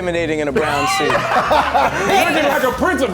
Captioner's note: all laughing